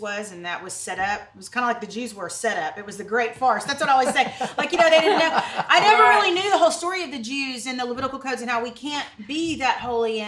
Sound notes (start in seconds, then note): 4.9 chuckles